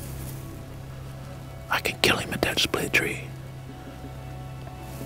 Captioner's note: whispering